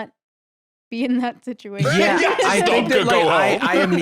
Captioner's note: laughs